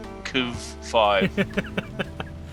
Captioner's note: laughs